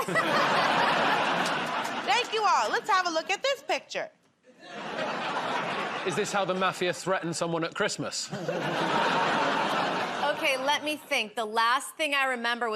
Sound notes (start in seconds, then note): 0.0 laughter; 8.3 laughter